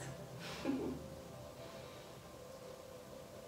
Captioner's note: giggle